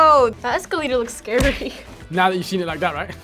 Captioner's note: laughs